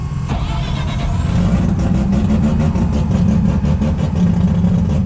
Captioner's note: cars starting and idling